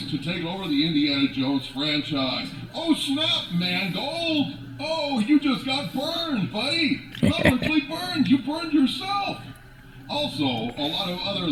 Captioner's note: laugh